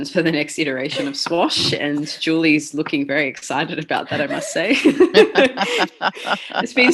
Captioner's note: laughter